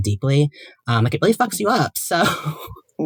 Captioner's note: chuckles